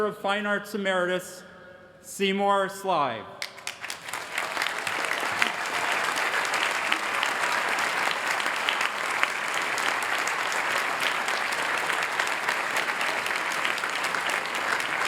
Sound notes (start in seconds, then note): 3.8 applause